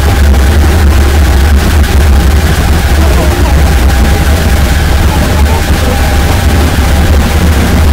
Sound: sound of motor winding down

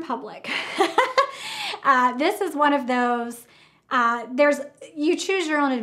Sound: laughs

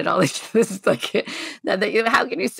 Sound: laughing

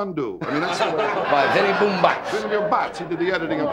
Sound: audience laughing

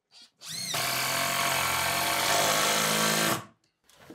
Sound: tool whirring

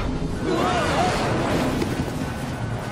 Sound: all yelling

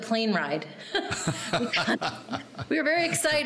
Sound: laughing

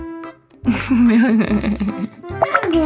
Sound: laughing

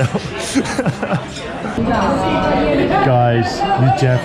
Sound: laughs

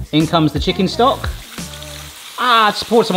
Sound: pan sizzling; stock trickling

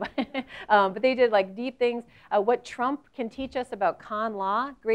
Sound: laugh

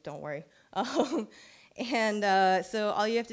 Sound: chuckles

